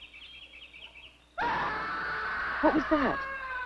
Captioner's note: scream